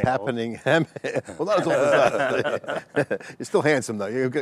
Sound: everyone laughs

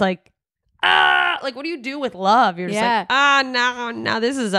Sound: screaming

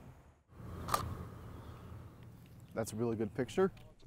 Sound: shutter clicks

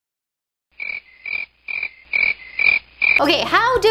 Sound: crickets chirping

